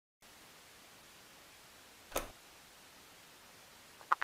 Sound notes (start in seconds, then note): 2.1 click